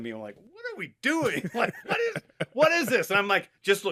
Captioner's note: laughs